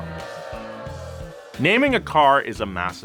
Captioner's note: booing